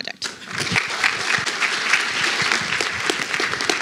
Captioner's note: applause